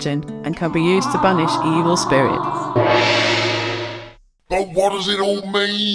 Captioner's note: malevolent spirit "ahhhh" crash